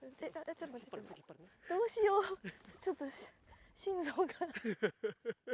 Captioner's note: laughs